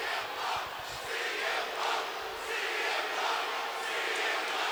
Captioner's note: audience chanting